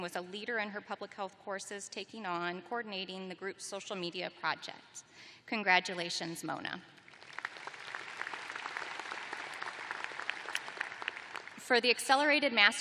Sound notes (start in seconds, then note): 7.0 applause